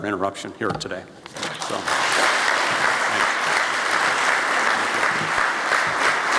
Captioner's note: applause from audience